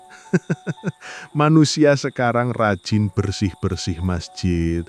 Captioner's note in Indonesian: tertawa